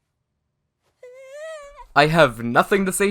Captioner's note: distressed noises